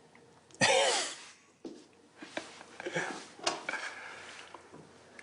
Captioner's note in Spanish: Risas